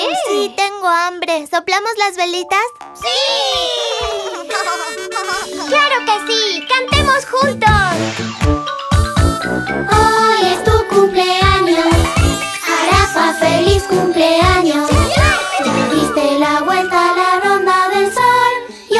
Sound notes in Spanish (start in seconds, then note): 4.2 Bocina; 4.2 Risas